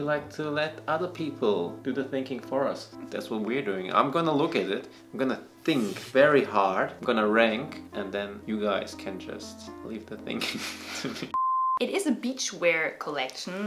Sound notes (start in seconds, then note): 10.7 laughs